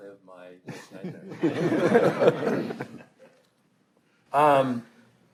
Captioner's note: panelists laughing